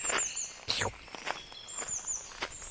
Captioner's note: sound of footsteps on gravel